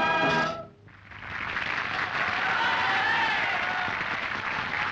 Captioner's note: applause and cheers